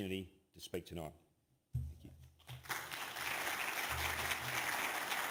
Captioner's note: applause